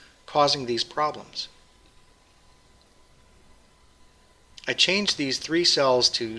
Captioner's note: pause